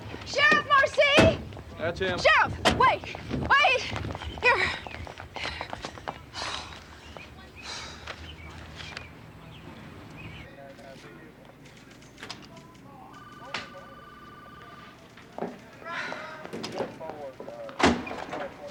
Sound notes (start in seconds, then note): 5.9 panting; 10.0 chatter over walkie